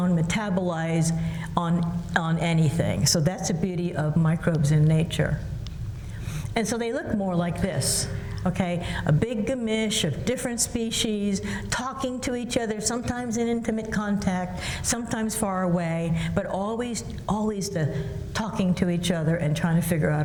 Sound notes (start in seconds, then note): none